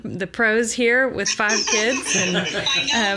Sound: laughs

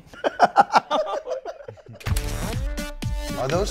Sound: laughing; high intensity techno music

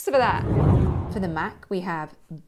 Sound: air swooshing

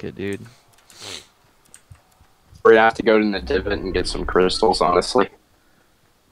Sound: sniffle

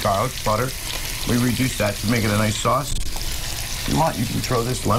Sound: sizzling

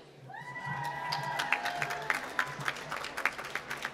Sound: applause

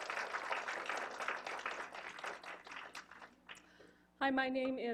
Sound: applause

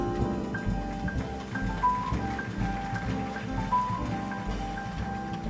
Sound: audience applauding

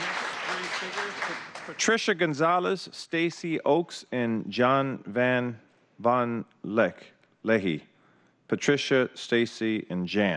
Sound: applause

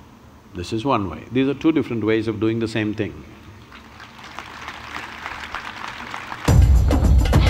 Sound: applause

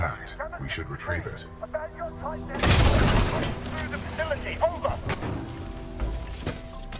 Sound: radio

